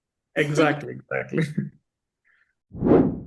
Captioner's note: chuckles